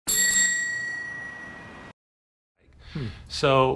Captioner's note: bell rings